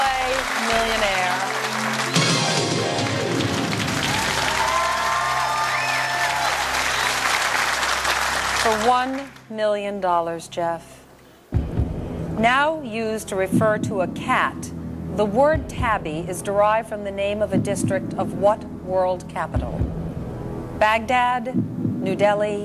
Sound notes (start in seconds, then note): 4.4 audience Applauds